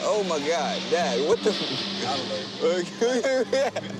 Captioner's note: laughs